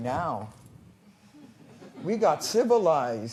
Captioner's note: laughter